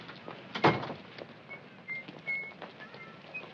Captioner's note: whistles